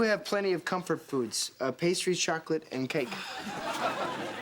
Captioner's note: sighs